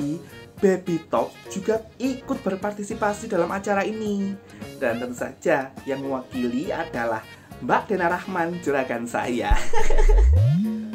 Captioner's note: chuckle